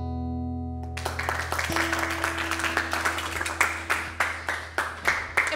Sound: students applauding

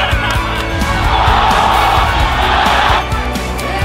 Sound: crowds cheering; claps and cheers; player and crowd cheering

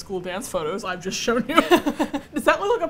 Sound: both laugh

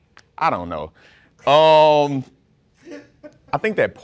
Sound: laughing

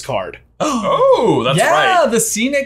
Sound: both gasping

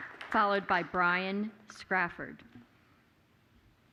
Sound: applause

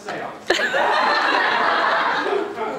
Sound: audience laughter

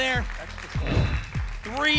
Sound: whoosh

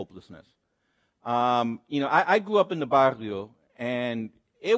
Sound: speaks Spanish

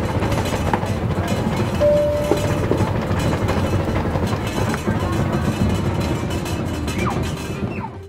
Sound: plane rattling

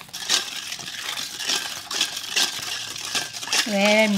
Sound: spoon clanking

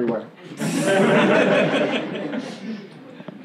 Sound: laughing

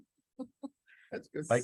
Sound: woman chuckling

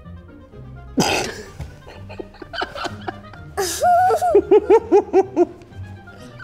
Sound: laughs

